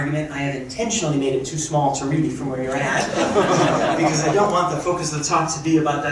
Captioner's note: crowd chuckling